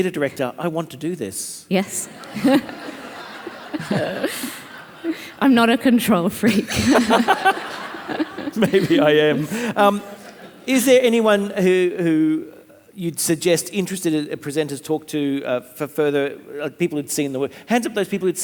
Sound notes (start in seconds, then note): 1.9 audience laughing; 6.4 all laughing